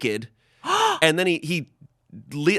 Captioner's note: gasps